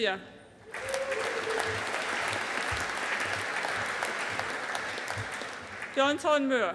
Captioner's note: audience applauding